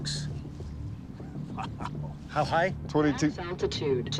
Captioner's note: laughter